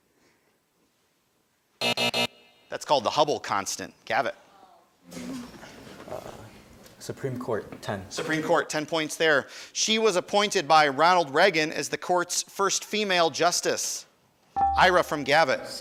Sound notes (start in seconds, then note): 1.8 alarm buzzes; 14.6 buzzer chimes